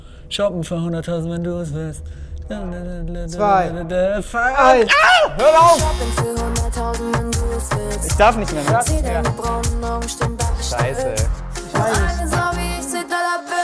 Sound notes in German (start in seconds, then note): 2.5 Er summt